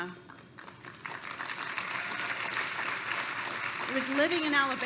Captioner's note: applause